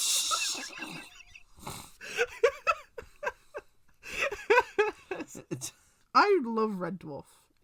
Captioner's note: continues laughing; laughs